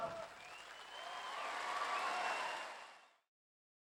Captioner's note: applause, whistling, cheering